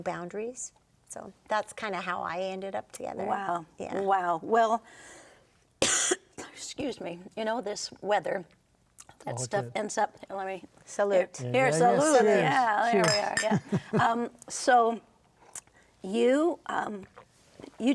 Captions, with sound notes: and I liked it because there's no boundaries, so that's kinda how I ended up together. - Wow! - Yeah. - Wow! Well, (coughing) excuse me, you know this weather, that stuff ends up, let me- - Salute. - Here, salute, yeah. - Yeah, cheers. - There we are, yeah. (cups clinking) So you,